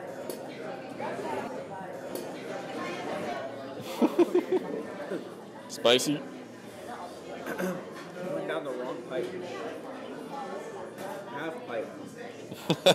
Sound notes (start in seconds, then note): 3.9 chuckles quietly; 7.4 coughs